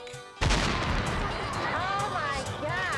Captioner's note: dynamite explodes